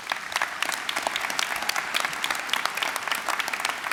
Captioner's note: applause